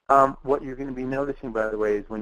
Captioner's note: voiceover